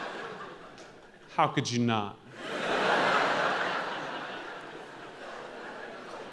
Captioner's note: audience laughing; audience laughing